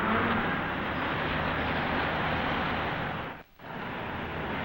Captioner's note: traffic humming